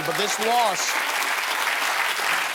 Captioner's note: applause